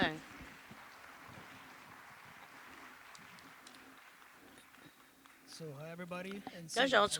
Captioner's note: applause